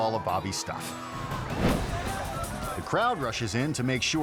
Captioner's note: crowd yelling; air whoosh